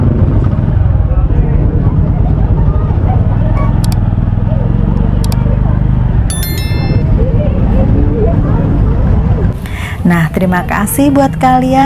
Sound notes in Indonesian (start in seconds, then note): 0.0 suara sepeda motor; 1.0 suara orang di keramaian